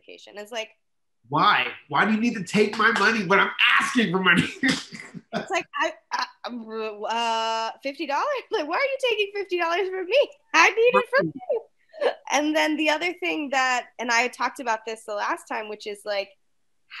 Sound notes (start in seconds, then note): 5.6 laughs; 7.6 stammers